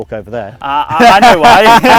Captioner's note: men laughing